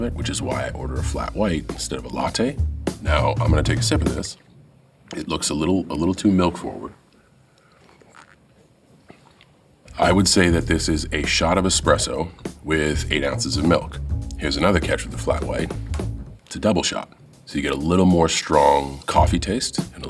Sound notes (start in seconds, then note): 7.8 John slurps